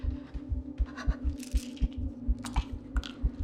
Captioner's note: heart beating; breathing heavily